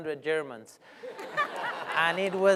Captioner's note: laughter